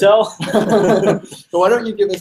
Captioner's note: laughs